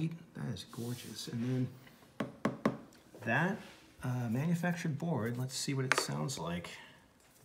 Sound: tap tap tap

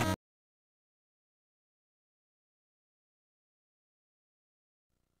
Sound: silence

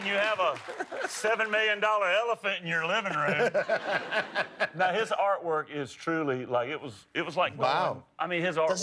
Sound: laughter

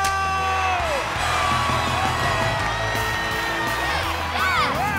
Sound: cheering; upbeat music playing

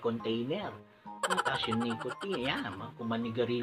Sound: funny laugh

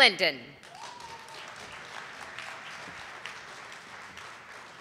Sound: audience applauding

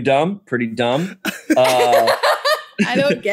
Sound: laughing

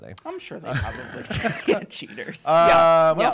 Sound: laughing

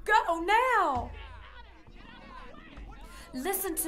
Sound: hunters speaking in the distance

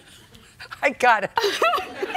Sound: laughing

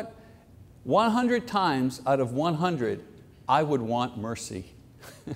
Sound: chuckles

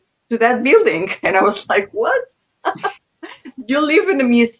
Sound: laughs

